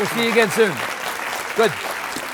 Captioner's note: audience applauds